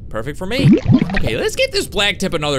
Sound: bubbles pop

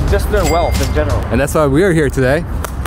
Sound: cash register dinging

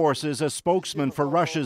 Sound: speaking alternate language

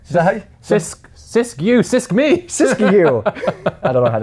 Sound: laughs

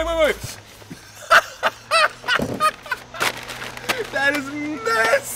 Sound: laughing

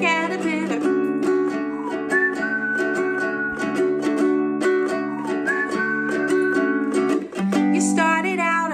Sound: whistling

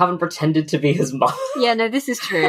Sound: laughs

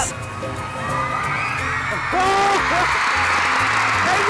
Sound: crowd cheers

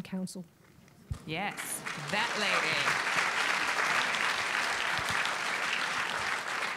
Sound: audience applauding

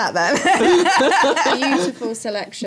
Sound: laughter

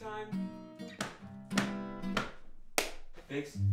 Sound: stomp, stomp, stomp, clap

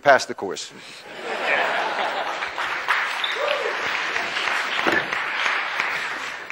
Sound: class laughs; class applauds

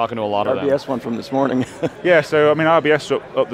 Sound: laughs

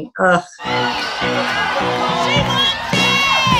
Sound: cheering; upbeat music; laughing

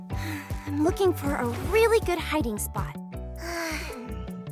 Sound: sighs

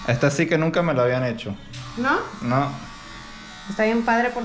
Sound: speaking in Spanish

